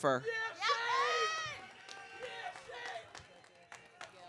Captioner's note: audience cheering